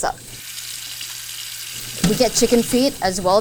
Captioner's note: water pouring